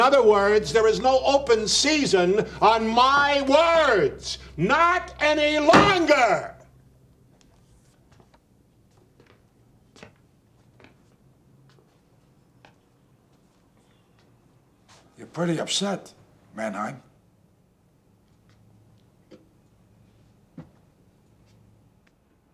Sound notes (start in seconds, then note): 5.6 slams Hand On Table